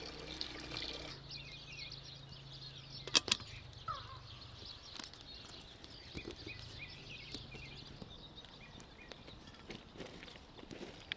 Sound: birds singing

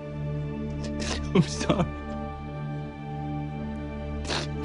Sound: crying; sniffles

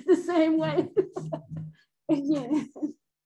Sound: laughs

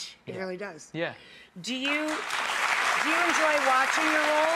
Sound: audience applause

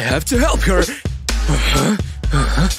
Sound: groans

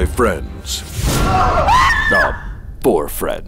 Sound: screams

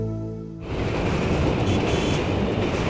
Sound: vehicles on road

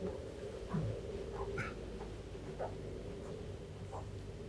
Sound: footsteps clomping

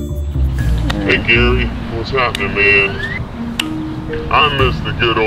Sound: birds chirping

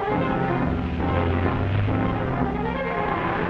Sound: car starts

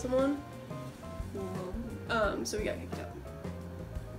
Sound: quietly

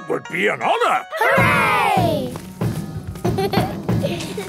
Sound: laughter; drumming

